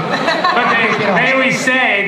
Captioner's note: laughter